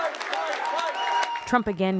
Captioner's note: cheering